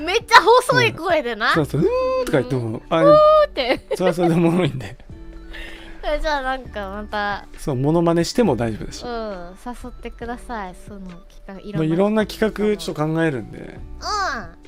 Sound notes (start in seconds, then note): 0.3 both imitating noises